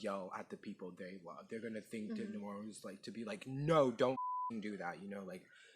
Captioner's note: beeping